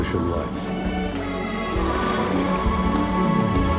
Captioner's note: whale paddling